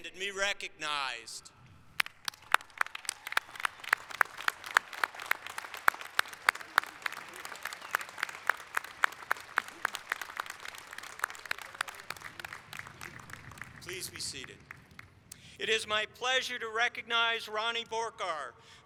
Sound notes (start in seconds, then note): 6.7 applause